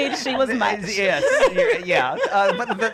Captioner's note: laughter